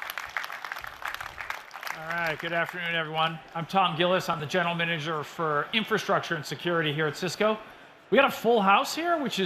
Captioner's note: applause